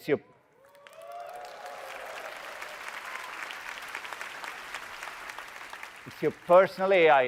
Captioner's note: audience cheering and applauding